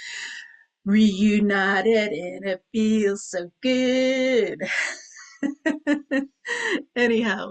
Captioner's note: chuckles